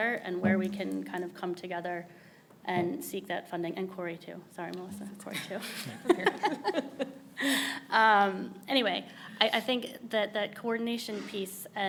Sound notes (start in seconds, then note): 5.6 both laughing